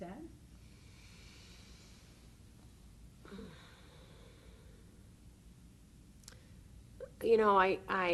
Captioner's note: sighing